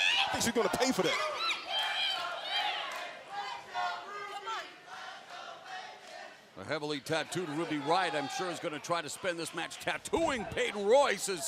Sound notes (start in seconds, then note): 4.7 fans chanting